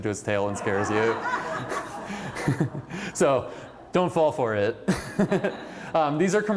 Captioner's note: laughter